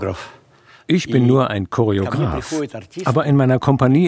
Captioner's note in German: russisch